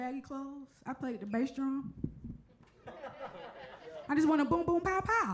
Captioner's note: audience laughs